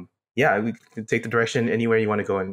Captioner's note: laugh